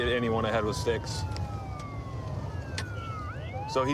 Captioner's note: sirens wailing